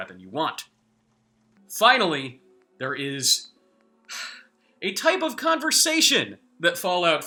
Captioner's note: sigh